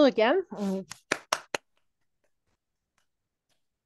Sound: applause

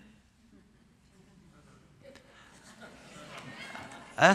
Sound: laughter

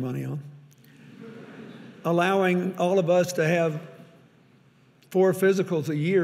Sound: audience laughing

